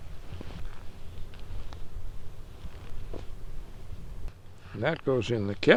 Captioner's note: swab snaps